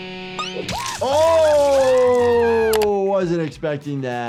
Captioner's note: guitar humming; Cuddles screaming